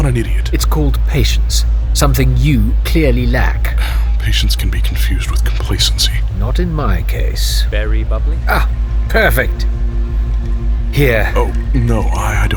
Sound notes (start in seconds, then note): 8.4 sound of drink tray